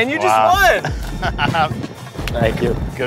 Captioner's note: laughs